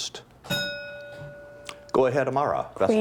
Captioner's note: bell ringing